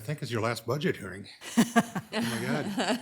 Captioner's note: people laughing